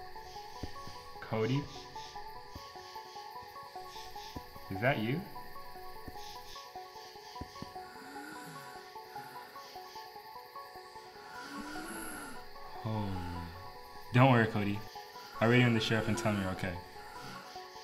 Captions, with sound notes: Cody... Is that you? (CODY breathes weakly) Holy... Don't worry, Cody... I'll radio in the Sheriff and tell him you're okay.